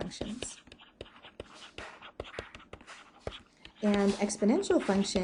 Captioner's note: pencil scratching